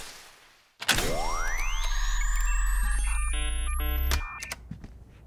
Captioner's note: machine whirs